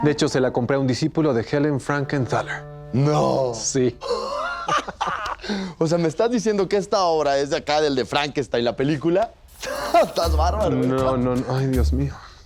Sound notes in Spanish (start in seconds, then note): 4.0 risas